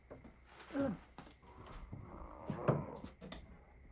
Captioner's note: groaning